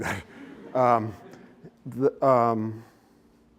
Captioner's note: laughter